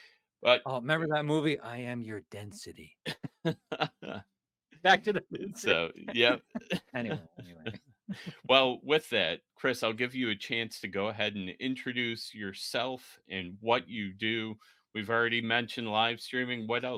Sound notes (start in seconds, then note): 3.0 laughing